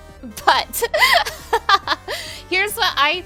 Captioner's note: laughing